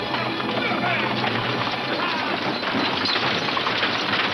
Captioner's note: wagons clattering